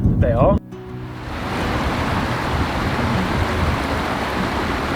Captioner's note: water whooshing